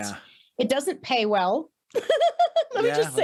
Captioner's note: laughs